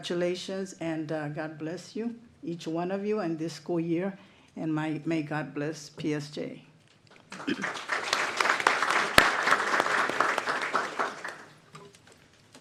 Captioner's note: applause